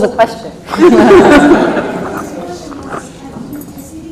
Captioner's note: laughs